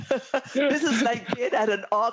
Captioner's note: laughter